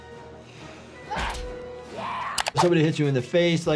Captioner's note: cat yowling; grunts